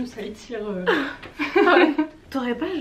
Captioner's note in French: rires